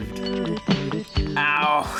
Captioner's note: Chuckie gasps